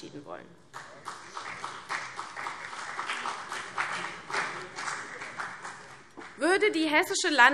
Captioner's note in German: Beifall CDU und BÜNDNIS 90/DIE GRÜNEN